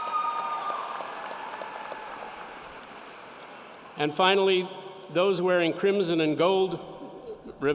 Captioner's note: cheering